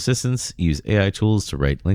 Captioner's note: uh